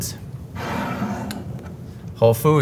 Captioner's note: jar sliding